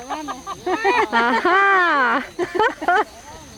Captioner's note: laughter